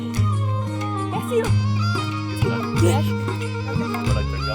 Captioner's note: in Urdu